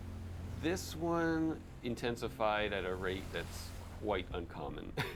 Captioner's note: chuckles